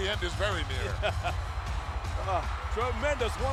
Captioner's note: laughing